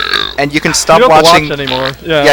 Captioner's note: braaaap